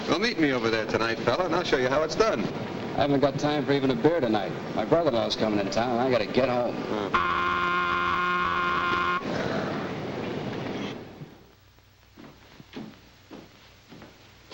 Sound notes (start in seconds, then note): 7.0 work horn blows